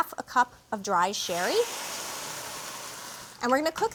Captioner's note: sizzles